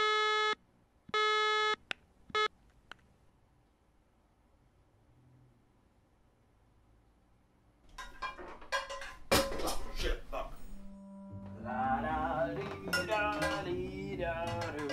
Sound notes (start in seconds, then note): 7.9 dishes banging; 10.8 humming